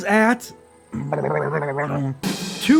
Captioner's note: DIY drumroll effect